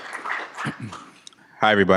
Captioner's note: applause